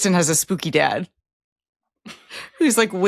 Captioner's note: laughs